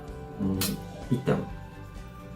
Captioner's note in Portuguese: smack